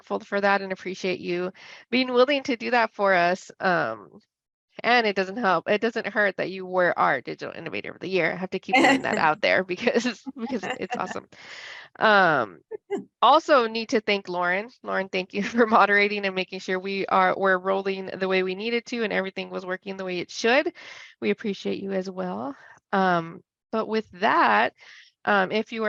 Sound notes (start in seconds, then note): 8.7 laughs